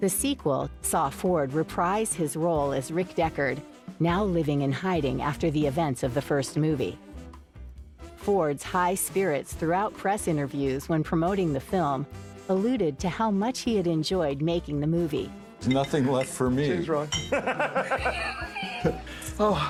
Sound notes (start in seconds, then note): 15.6 glasses clinking; 17.2 Harrison laughing